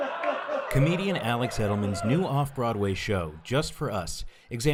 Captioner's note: laughter